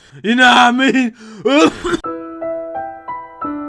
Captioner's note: dies coughing